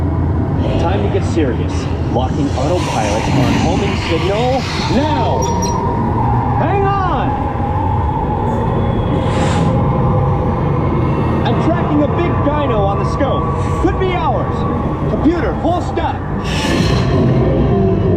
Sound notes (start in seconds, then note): 4.1 beeps